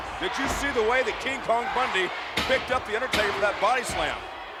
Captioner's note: referee smacking mat